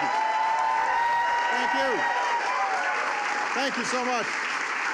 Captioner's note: applause